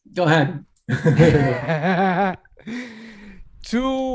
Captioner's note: laughs